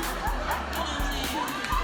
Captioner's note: crowd laughs